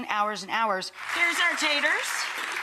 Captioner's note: audience clapping